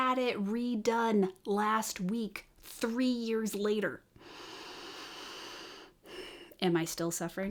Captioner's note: calming breath in disabled American